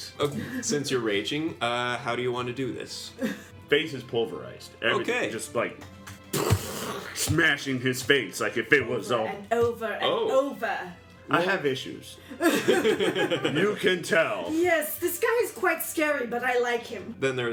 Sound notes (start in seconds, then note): 6.4 explosion noise; 12.3 all laugh